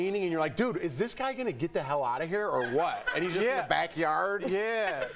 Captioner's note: laughter